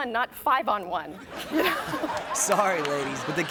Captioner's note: everyone laughs